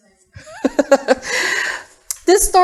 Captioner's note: laughter